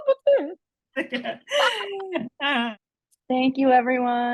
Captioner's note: laughing